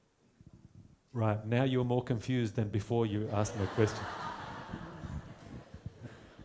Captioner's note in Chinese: 大笑